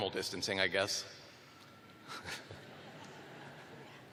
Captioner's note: laughter